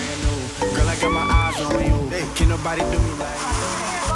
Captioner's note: screams